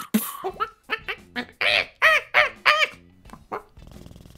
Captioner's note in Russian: звуки обезьяны; мурчание котика